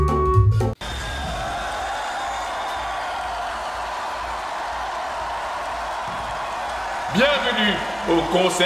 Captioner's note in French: Cris du public